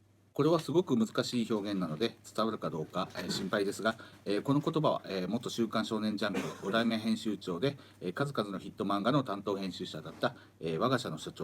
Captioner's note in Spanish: Hablando en japonés